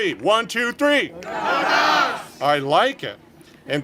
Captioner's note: congregation shouting